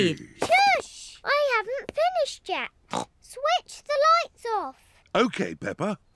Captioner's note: snorts